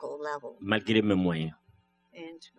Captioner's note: speaking french